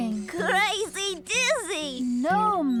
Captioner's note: giggling